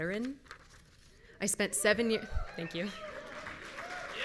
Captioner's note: audience members cheering